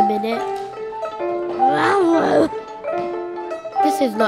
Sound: soft growls

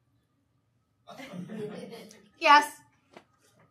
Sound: audience laughing

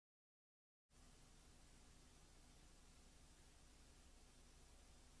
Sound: VHS static

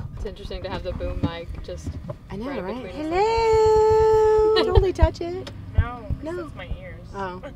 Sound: tap tap tap; laughter

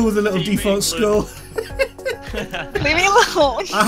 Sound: laughing

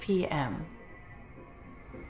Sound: computer voice

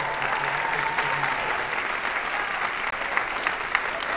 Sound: audience applauding

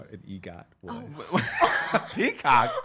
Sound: laughing

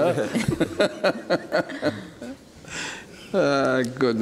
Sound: laughing

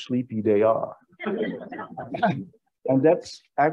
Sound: audience laughing

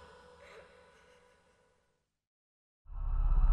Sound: sobbing

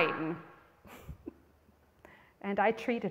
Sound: chuckles

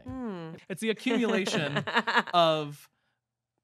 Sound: laughing

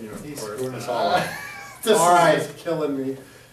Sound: laughing

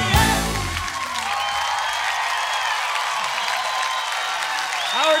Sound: crowd cheering

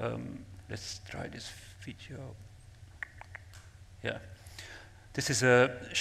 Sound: clicks tongue

